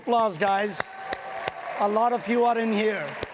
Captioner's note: audience cheering and clapping